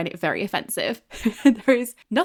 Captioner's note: laughing